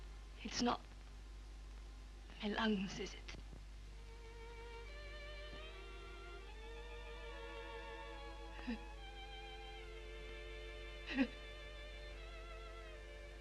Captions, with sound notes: It's not me lungs, is it? (sobs)